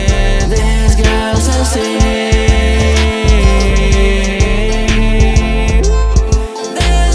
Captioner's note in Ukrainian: ууууу